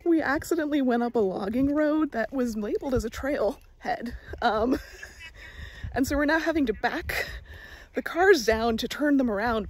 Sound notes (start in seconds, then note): 4.1 laugh